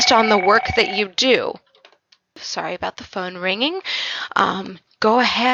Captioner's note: phone rings in background